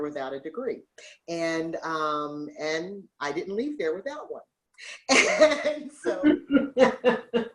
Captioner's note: laughs